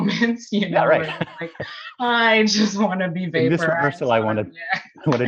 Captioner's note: laughs; laughs